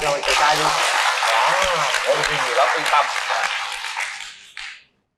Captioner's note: applause